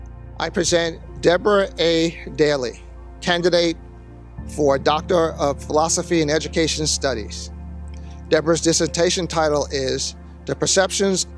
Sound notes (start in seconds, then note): none